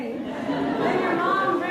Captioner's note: laughs